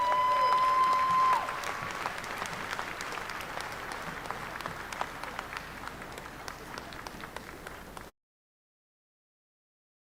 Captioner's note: applause